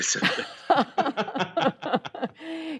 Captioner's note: laughter